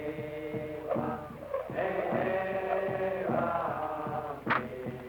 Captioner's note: rope swishing